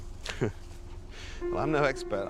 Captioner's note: chuckles